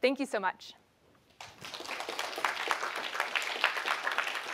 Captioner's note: applause